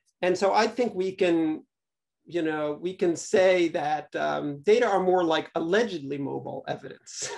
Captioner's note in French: rires